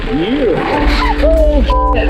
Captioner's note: shrieks